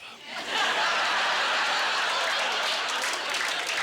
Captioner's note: audience laughter; audience applause